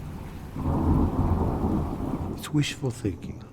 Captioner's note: thunder clashing